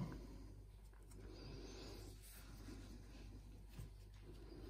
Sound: heavily breathing

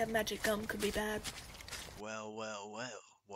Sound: footsteps stop

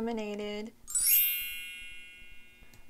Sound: sparkle sounds and not explosions for once

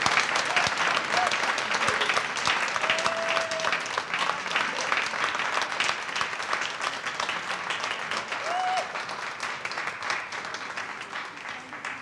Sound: audience applauds

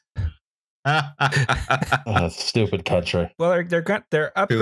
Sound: laughs

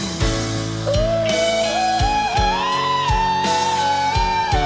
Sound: vocalizing

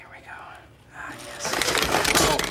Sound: pencil sharpener whirs

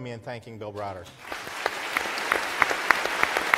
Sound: applauds

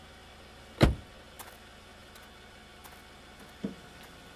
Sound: car door thuds

